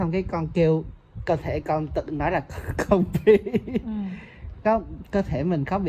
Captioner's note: laugh